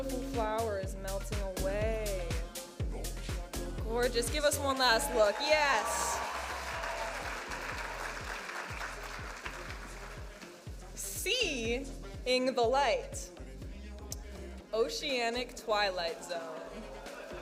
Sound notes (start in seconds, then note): 7.1 audience applauding and cheering